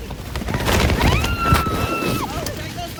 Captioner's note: screaming